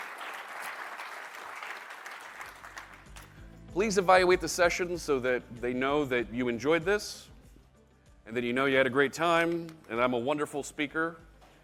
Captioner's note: applause